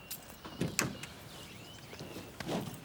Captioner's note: car door clicks; birds chirping